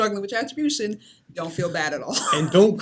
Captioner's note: laughs